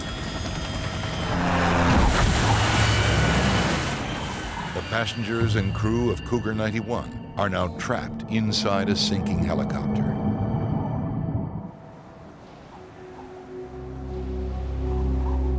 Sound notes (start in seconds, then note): 0.9 airplane crashing; 1.4 airplane engine roaring; 10.2 humming; 12.7 sinister music